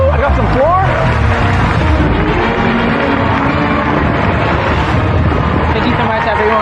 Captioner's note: dramatic sound effects